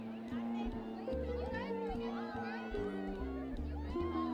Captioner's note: people chattering